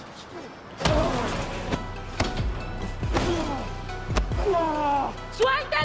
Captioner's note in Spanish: Golpes